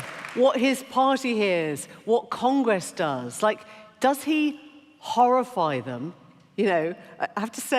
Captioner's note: applause